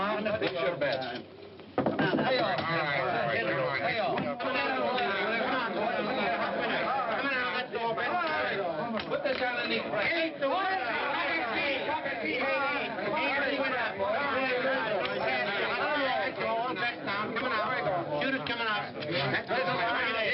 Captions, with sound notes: Place your bets. (PEOPLE CHATTERING) All right, all bets down. Coming out. Shooter's coming out.